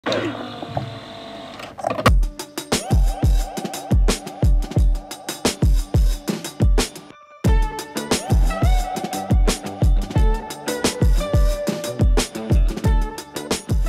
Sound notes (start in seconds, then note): 0.0 machine whirs; 2.1 upbeat music